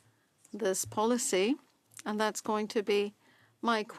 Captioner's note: speaking French